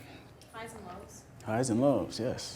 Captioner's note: voiceover